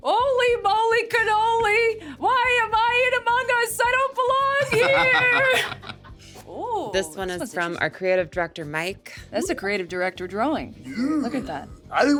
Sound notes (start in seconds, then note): 4.6 SungWon and Richard laughing